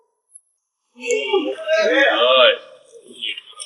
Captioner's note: men catcalling